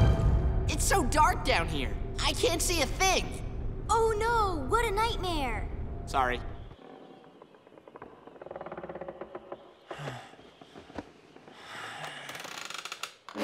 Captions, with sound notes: It's so dark down here. I can't see a thing. Oh, no, what a nightmare. Sorry. [creaking] [creaking]